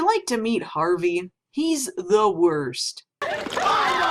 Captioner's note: strained